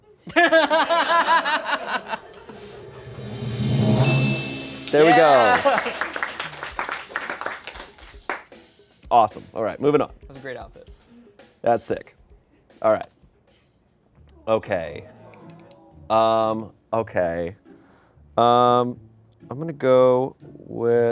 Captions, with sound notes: (everyone laughs) (drum roll hisses) (bell chimes) There we go. (crew applauds) Awesome. All right, moving on. That's sick. All right. Okay. Okay. I'm gonna go with Audrey on this one?